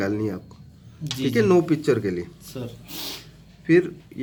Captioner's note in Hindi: नाक से की जाने वाली आवाज़